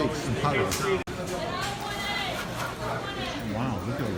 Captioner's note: customer chatter